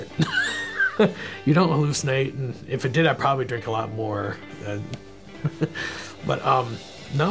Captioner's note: chuckling